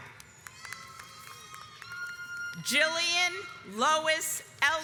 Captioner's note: audience applauds